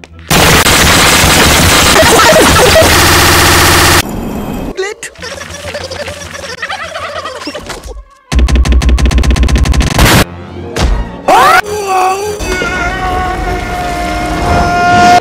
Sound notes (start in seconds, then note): 0.0 footsteps; 0.2 loud Slip; 5.2 nervous Mumbling, Turkey sounds; 8.3 slamming, Explosion